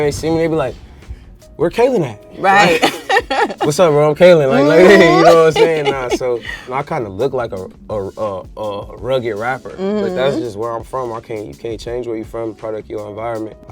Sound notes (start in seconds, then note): 2.5 laughs